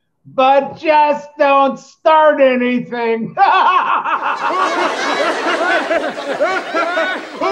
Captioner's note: laughing